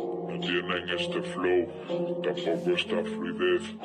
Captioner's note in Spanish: voz ralentizada